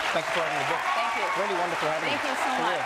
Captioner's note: group cheering